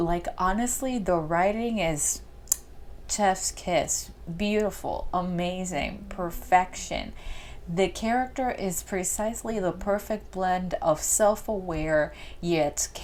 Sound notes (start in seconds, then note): 2.5 chef’s kiss